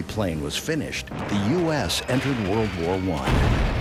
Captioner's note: bombs exploding